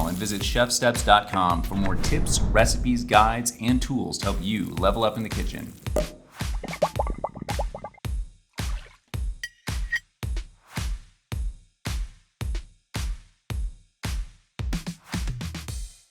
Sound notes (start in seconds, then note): 5.9 upbeat music; 6.4 bubbling